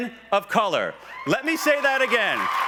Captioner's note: cheers